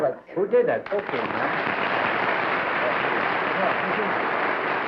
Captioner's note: applause